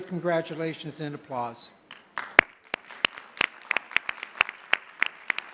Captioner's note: applause